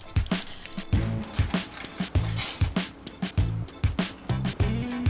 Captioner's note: cheese grating; upbeat music playing